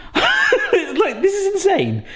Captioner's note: laughing